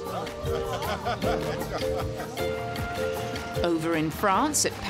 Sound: audience member laughing

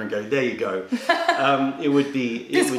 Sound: laughter

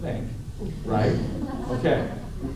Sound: laughter

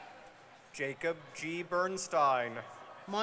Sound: none

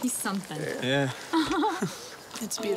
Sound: Michelle giggles

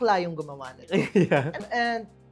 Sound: laughs

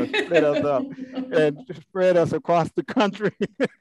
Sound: laugh

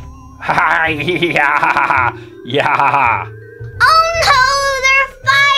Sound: laughing

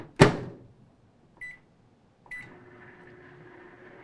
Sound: closing microwave; microwave sound; beeping

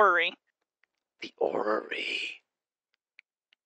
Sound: hissing

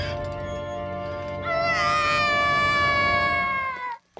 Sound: screaming

